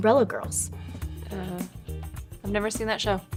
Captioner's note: groans